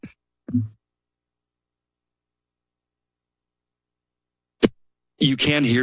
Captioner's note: silence